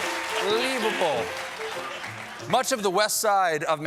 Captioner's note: piano riff; applause